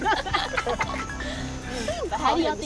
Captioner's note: phone ringing